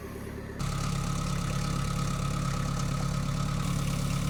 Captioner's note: engine rumbling